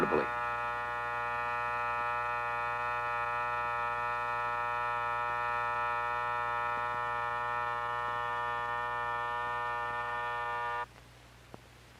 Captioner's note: alarm clock buzzing